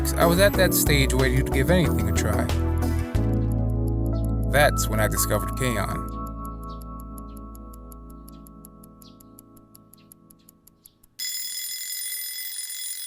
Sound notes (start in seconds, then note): 8.2 alarm Clock Ticking; 11.1 alarm Clock Ringing